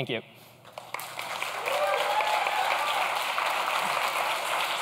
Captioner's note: clapping and cheering